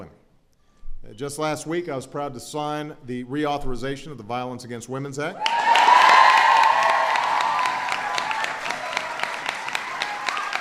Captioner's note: applause